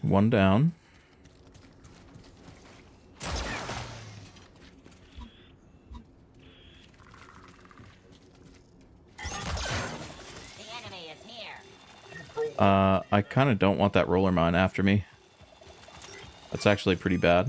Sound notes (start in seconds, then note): 3.2 gunshots